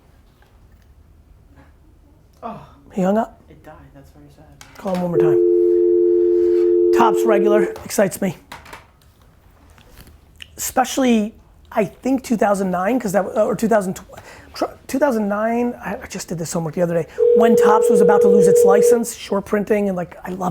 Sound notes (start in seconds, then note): 7.5 dial tone buzzing; 17.2 phone ringing